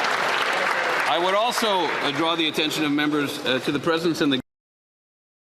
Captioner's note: applause